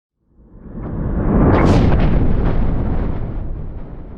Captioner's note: rumbling